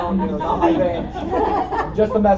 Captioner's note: laughter